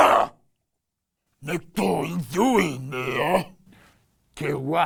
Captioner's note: alien sounds